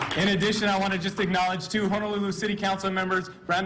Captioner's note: cheers and applause